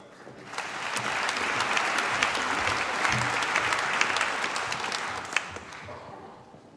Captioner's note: applause